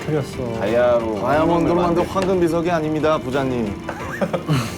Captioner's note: rumbling